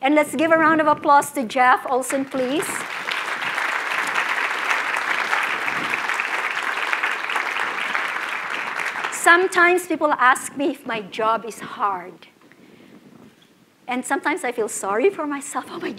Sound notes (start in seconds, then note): 10.3 applause